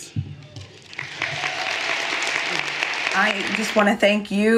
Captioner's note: everyone applauding